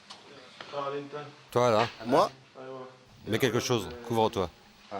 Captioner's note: Arabic spoken audio